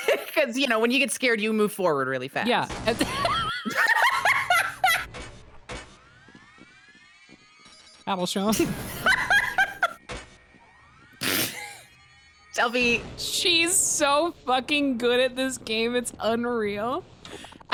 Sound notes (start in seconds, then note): 2.7 explosion; 2.8 laughs; 8.5 explosion, both laugh; 11.4 laughs